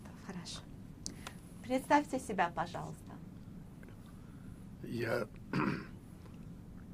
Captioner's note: coughing